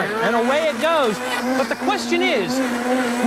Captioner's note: blender whizzing